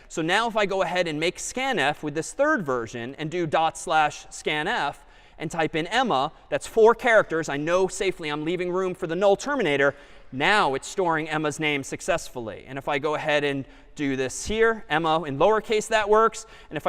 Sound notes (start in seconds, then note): none